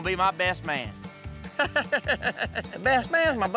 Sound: laughing

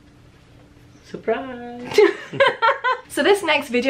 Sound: laughing

